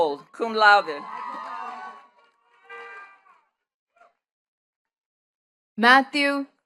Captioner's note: attendees cheering and clapping